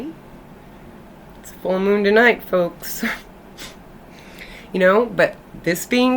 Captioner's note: chuckles